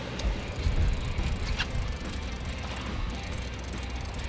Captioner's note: reel clicking